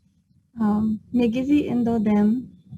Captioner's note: speaking Native language